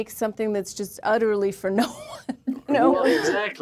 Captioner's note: chuckles